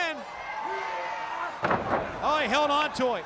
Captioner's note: crowd cheering